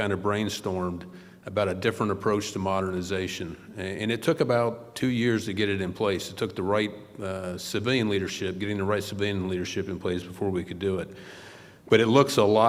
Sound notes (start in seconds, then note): none